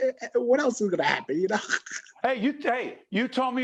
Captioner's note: laughing